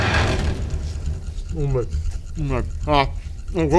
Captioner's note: wincing in pain